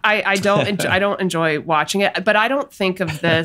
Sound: Glenn laughs; Glenn laughs

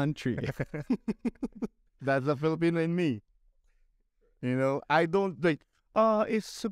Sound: laughter

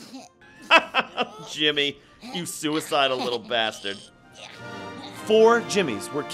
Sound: laughing

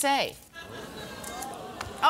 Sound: audience ooohs

